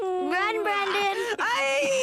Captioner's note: moaning